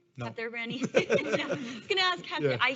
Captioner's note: laughs; all laughing